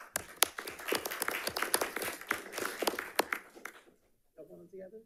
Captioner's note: audience applauding